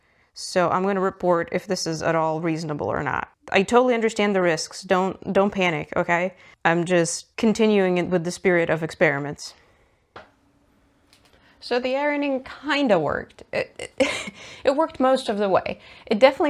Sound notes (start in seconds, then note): 13.7 laughs